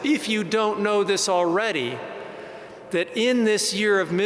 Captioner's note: none